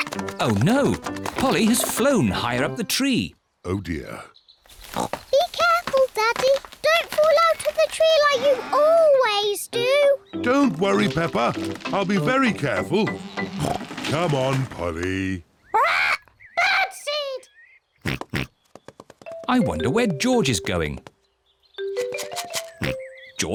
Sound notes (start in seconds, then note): 18.0 oinks; 22.0 rattles seed